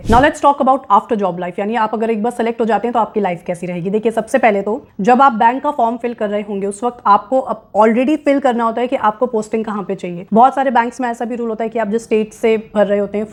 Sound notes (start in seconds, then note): 2.0 speaking hindi